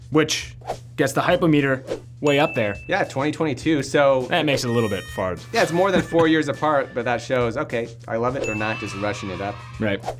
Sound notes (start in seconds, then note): 4.6 meter dings; 5.7 sad trombone; 8.5 children cheering